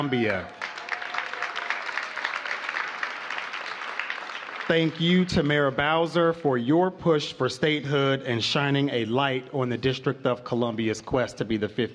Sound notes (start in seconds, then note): 2.5 applause